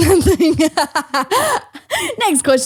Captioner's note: laughs